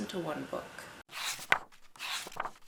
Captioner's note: pages turning